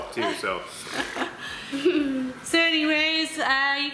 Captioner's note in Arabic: يضحك